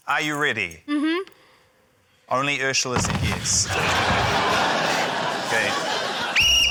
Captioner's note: wall bangs; whistle trills